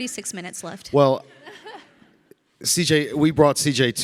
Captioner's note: panelists chuckling